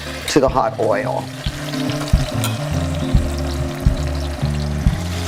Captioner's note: oil sizzling